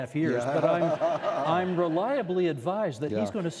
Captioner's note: laughing